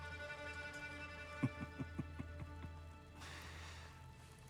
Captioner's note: laughs